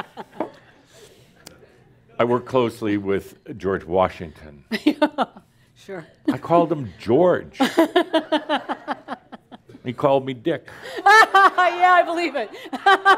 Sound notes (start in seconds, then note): 0.0 laughs; 4.7 laughs again; 4.8 chuckles; 8.6 laughs loudly; 10.9 she continues laughing loudly and some audience laughter